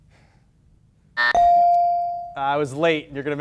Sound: timer and ding sound simultaneously

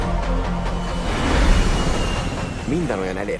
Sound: roaring

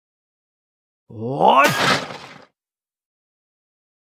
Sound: sound of kick

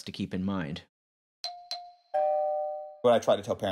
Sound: beeping

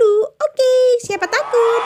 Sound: clap

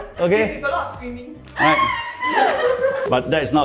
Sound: screams

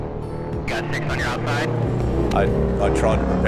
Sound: man On Radio

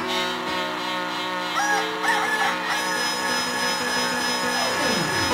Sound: bleating; crowing

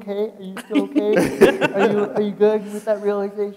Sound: people laughing

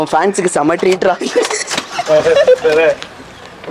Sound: laughs

